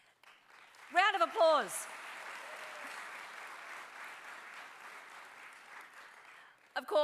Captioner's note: applause